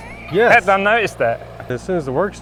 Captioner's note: laughing